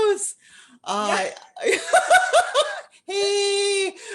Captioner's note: laughter